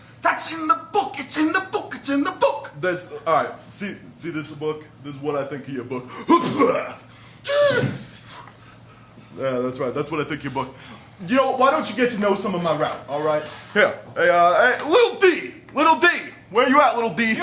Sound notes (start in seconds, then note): 6.2 sneezes loudly; 7.2 gasps